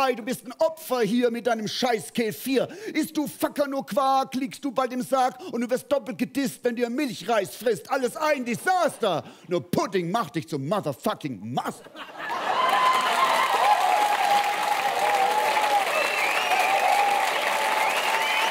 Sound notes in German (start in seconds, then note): 12.2 Jubel und Applaus